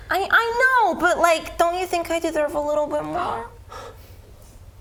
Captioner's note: none